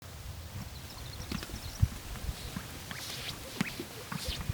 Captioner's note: birds chirping